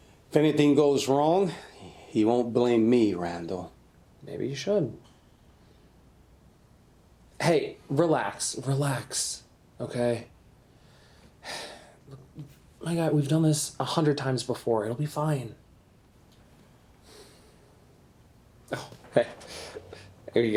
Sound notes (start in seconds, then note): 11.4 sighs; 18.7 chuckles